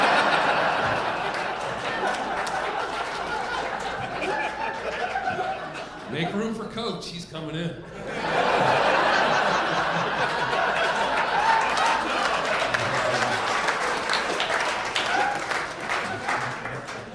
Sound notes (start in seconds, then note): 0.0 audience laughing; 8.0 audience laughing and applauding